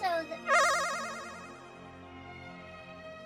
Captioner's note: Sonic Special Stage SFX